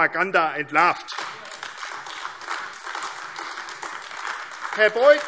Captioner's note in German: Beifall AfD